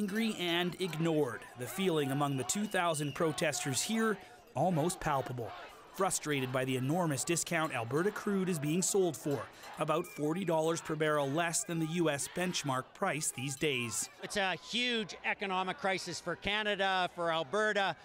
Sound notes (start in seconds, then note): 0.6 chanting